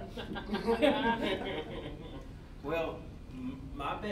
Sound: all laughing

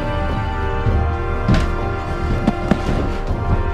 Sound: door is Kicked

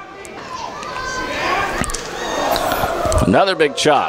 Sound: crowd cheers

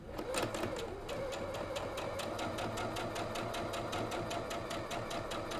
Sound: sewing machine humming

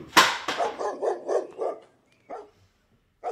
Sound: dog barking

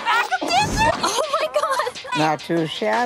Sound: laughing

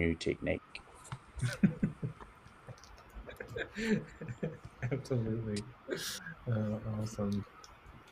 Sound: laughs

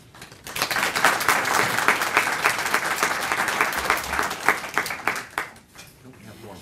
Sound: applause

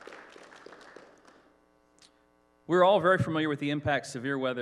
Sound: applause

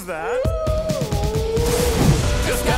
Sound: howling

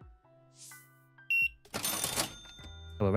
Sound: beeping

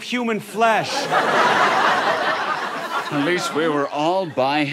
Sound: audience laughter

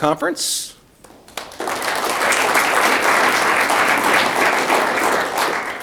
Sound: audience clapping

